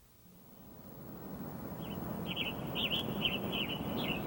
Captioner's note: birds chirping